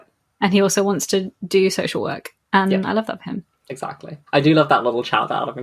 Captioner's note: none